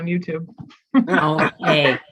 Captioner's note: all laughing